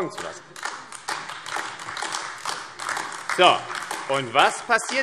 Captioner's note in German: Beifall AfD